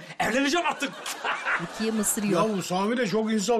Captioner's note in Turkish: Gülme sesi